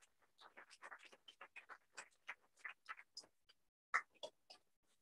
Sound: applause

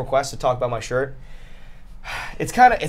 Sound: sighs

